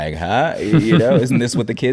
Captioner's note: chuckling